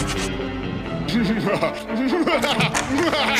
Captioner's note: laughs wickedly